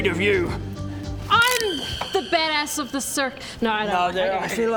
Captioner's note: snap